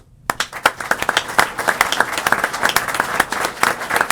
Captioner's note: applause